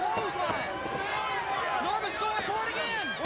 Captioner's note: crowd cheering